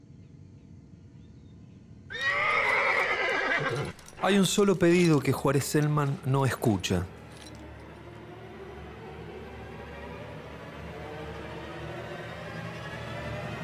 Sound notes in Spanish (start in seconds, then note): 2.1 Relincho de caballo; 7.2 Música de suspenso